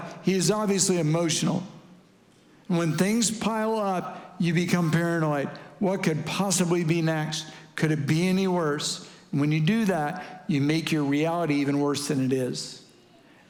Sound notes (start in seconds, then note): none